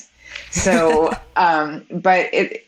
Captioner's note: woman laughs